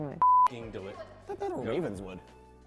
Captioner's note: beep